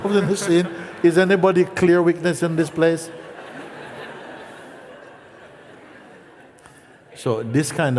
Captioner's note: laughter